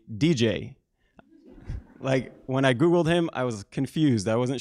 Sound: laugh

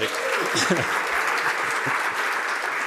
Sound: cheering and applause

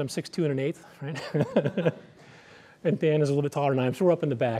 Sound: laughs

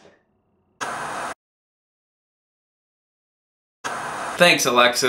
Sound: static hissing

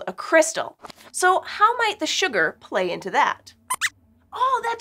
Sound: squeaks squeaks

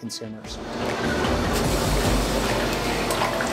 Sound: fryer bubbling

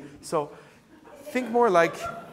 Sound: audience laughing

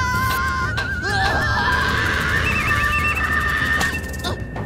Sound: screaming

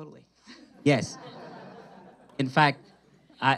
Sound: audience laughs

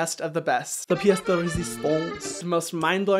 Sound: speaking in French language

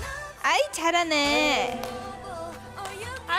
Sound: tired

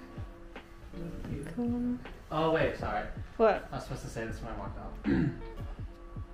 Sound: clears throat

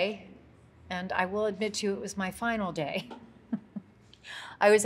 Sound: laughs

